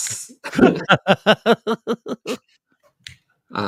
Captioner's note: laughter